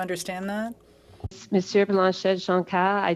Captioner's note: speaking French